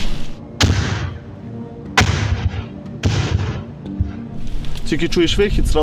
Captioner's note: incoming mortar fire